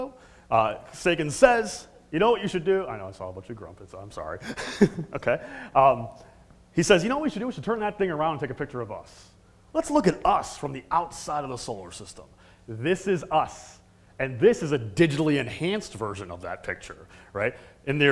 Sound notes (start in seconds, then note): 4.4 laugh